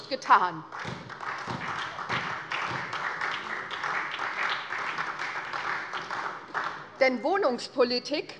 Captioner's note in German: Beifall SPD